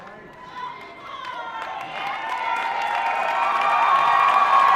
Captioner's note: cheering and applause